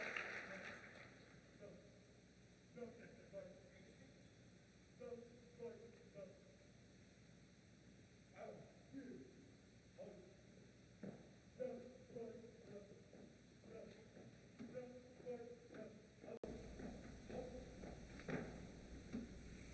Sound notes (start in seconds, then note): 2.1 JROTC count marching steps